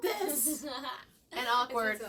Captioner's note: laughing